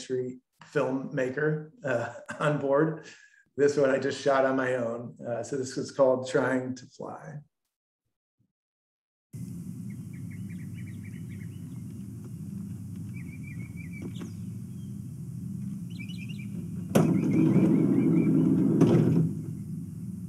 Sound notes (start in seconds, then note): 9.4 birds chirping; 12.4 sliding door opening